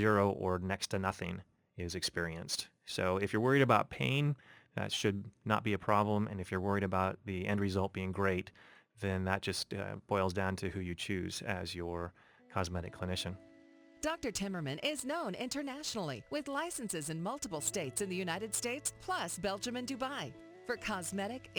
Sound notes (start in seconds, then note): 13.8 voiceover